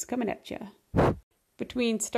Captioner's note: woosh